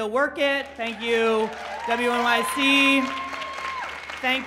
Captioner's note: applauding